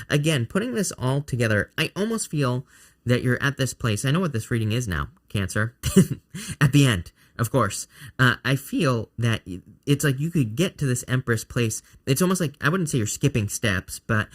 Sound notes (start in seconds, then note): 5.8 chuckles